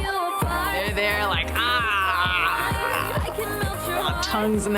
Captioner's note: blabbers